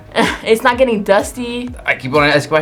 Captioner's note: laughs